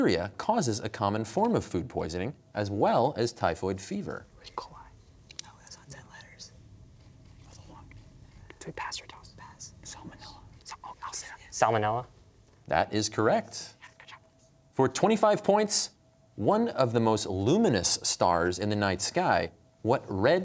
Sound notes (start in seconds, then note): 4.4 whispering; 13.9 whispering